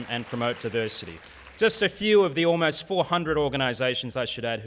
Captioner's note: applause